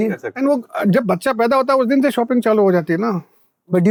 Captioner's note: speaking in Hindi